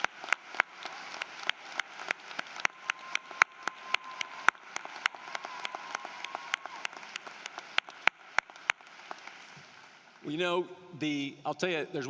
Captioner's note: cheering and applause